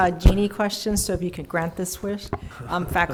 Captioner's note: laughing